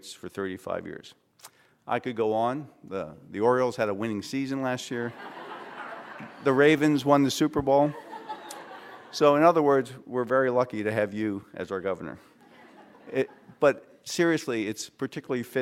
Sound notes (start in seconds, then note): 5.0 laughter; 7.8 laughter